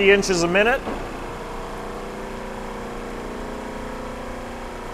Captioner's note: machine hovering